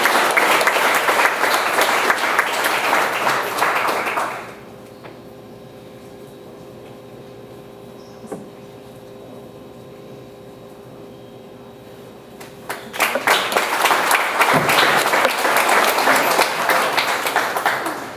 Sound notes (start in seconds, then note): 12.4 audience applauds